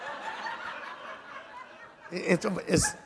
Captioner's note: laughter